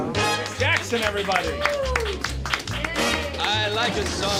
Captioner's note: patrons applauding